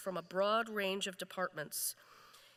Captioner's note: none